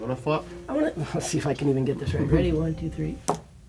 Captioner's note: chuckles; board clinks